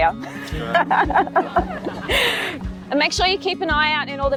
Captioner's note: laughing